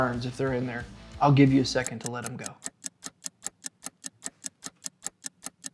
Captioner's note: clock ticking